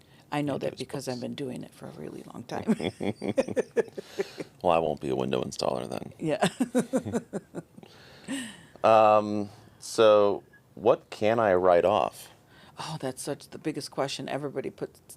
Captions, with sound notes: I know that because I've been doing it for a really long time. (both laughing) Well I won't be a window installer then. Yeah. So what can I write off? Oh that's such the biggest question everybody puts--